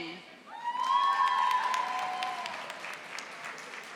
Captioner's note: audience applauding